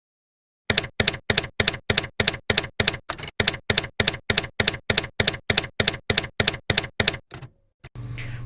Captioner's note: typewriter keys clacking